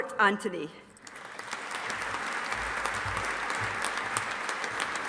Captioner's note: audience applauding